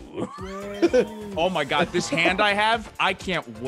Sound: laugh

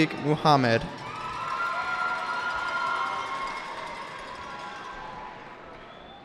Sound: cheering

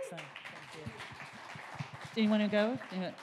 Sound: audience cheering and applauding

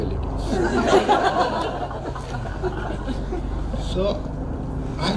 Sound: crowd laughs

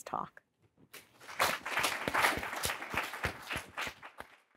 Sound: audience applauding

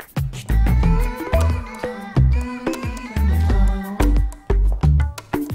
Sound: humming

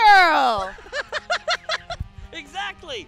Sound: laughing

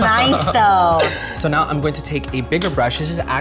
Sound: laughs

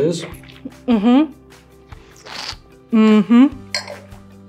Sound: slurping noise

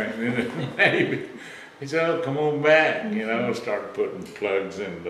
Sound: laughs

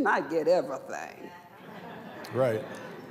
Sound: laughter

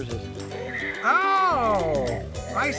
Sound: dinosaur roars

